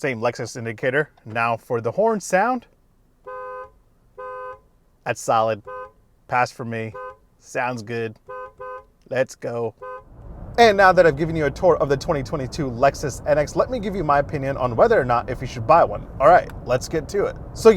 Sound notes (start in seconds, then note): 3.8 horn beeping